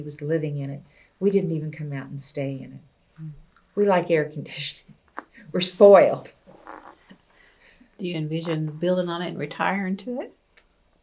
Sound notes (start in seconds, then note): 7.2 laughs